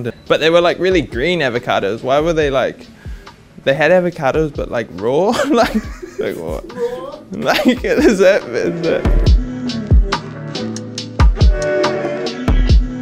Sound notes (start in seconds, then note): 5.3 laughs; 10.0 laid back music